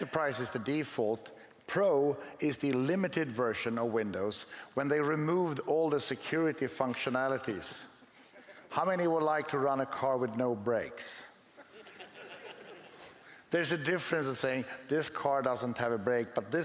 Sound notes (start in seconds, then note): 11.6 laughing